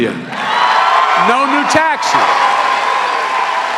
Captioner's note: cheering and applause